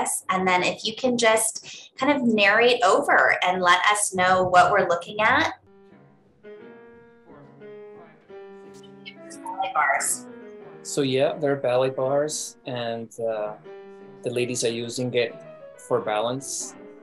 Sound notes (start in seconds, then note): 5.7 ballet dancers chattering; 5.7 piano music